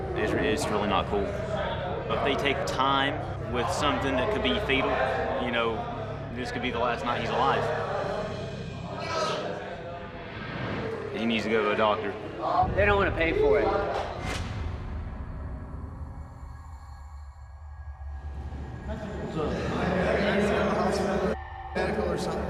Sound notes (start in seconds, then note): 9.9 whoosh; 14.1 slam